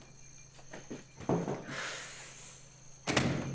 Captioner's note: sigh